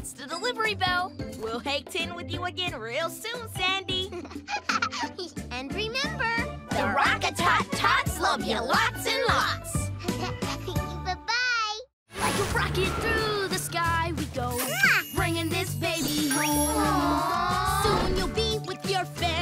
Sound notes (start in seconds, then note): 4.1 giggles; 10.0 giggles